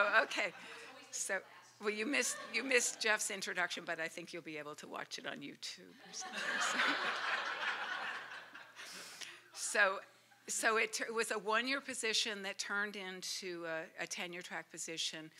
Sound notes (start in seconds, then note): 8.6 laughter